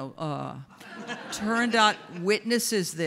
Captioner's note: audience laughs